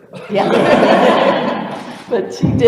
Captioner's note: laughter